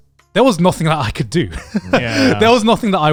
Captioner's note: chuckles